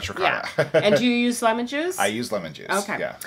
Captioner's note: laughs